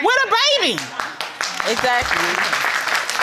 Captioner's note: audience applauds